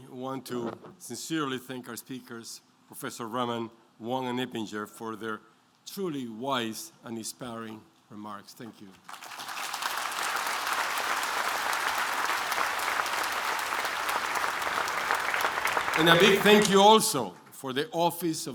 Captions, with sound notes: want to sincerely thank our speakers, professor Raman, Wang, and Eppinger for their truly wise and inspiring remarks. Thank you. [APPLAUSE] And a big thank you also for the Office